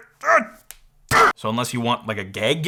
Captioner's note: angry grunting!